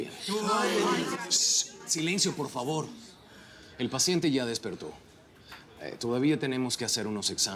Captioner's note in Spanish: Exclamaciones al unísono